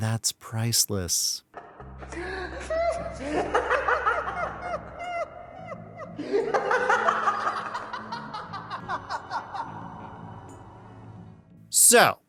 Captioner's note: the riddler and joker laughing